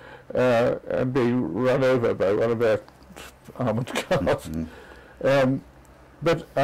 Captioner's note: laugh